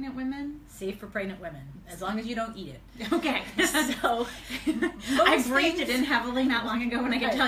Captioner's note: laughs